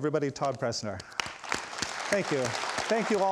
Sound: audience applauds

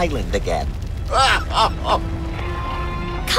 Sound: sobbing

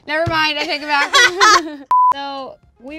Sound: laughing

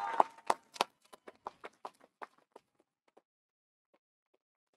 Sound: audience cheering

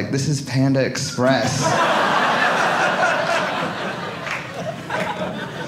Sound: audience laughing

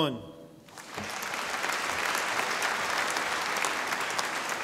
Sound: audience applauding

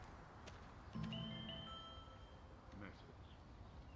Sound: mobile bleeps - "message"

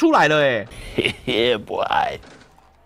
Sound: typing with both hands

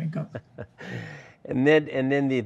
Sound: chuckles

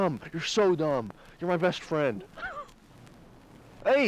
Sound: whimpers

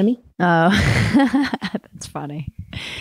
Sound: laughs

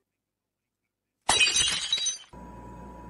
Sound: crack

